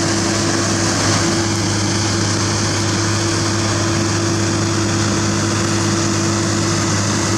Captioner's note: engine